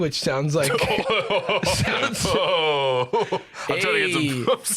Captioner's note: laughing